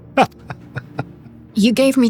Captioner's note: laughs